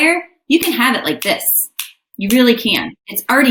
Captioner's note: fingers snapping